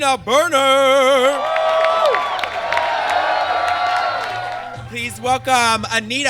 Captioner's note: audience cheers